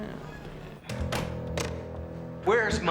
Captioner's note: door closing